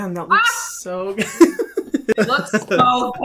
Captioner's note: laughs